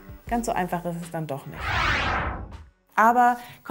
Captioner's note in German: Soundeffekt